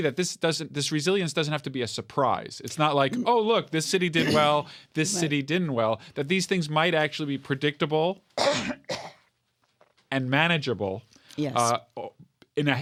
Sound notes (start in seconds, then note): 8.4 coughing